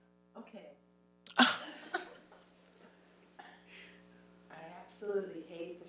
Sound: laughs

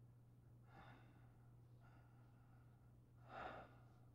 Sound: Donald panting

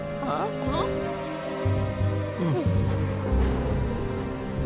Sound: Moyo sighs

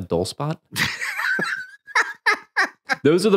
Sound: laughing

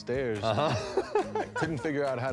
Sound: laughs

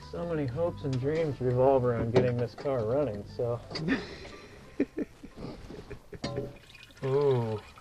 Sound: laughs

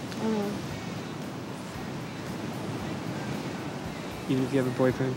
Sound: waves crashing

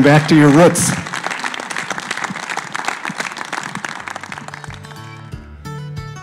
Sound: applause

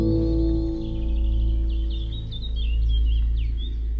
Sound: birds singing

